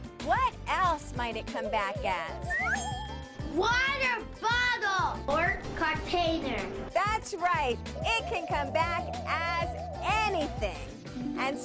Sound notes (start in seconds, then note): 2.4 slide whistle blows; 2.7 bell rings